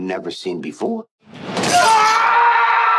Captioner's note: yelling